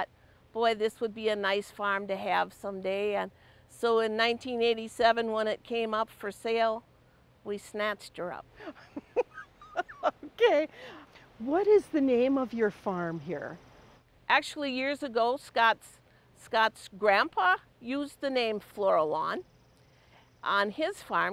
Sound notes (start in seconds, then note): 8.6 chuckling